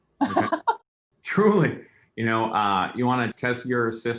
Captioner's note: laughter